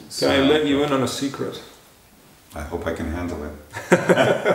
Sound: laughter

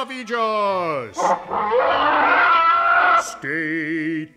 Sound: monster Screaming

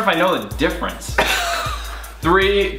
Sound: Collins laughs loudly

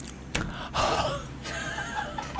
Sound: gasp

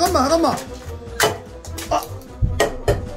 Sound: bang!

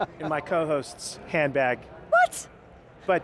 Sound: laughing

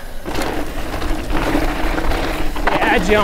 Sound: bike rattles

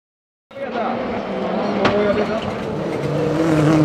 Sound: car engines

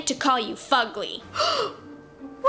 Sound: Roni gasps

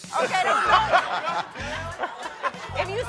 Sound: laughter

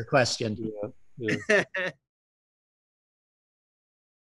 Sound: laughing

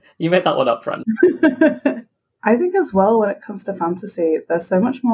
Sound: laughs

